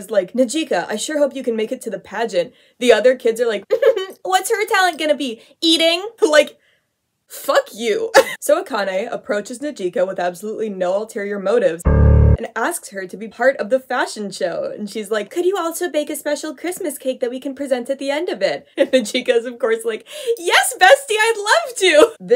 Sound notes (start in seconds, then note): 3.6 smug chuckle; 7.8 laughs; 11.8 ominous piano note